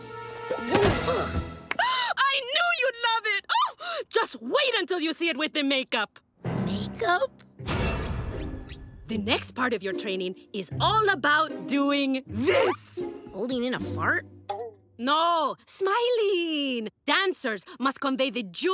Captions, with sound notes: [gasping] I knew you'd love it! Ah! Just wait until you see it with the makeup. Makeup? The next part of your training is all about doing this! Holding in a fart? No, smiling. Dancers must convey the joy